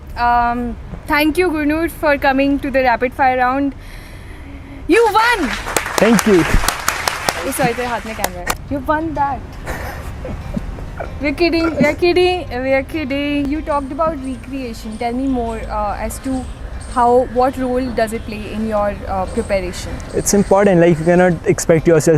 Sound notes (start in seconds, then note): 3.8 sighs; 5.1 thunderous claps; 7.4 claps continue